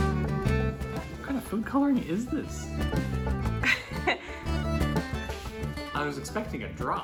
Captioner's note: laughs